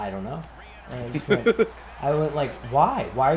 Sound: laugh

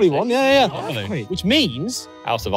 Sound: everyone chattering

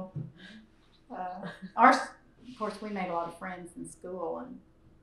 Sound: laughter

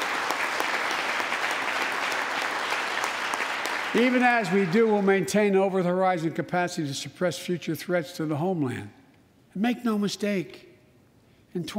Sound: applause

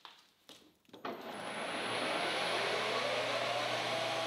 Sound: machine whirring

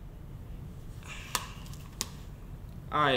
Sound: Law slams pen

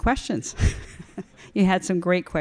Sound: chuckles

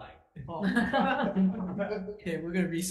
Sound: all laughs

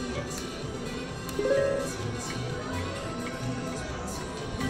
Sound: machine beeps

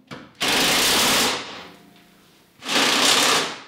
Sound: drill whirs

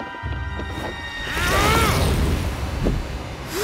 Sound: grunting

